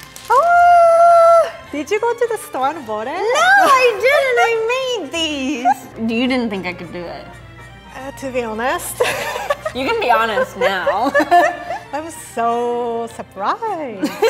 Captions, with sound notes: - Oh! Did you go to the store and bought it? - No, I didn't! I made these. You didn't think I could do it. - To be honest... (laughing) - You can be honest now. - I'm so surprised.